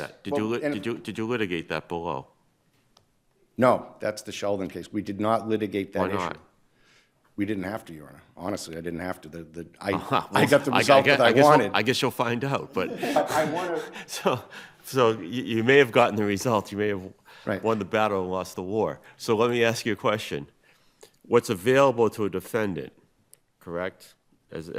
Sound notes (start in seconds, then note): 12.7 chuckles